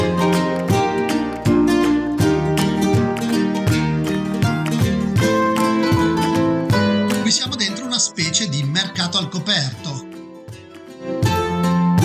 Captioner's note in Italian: Applauso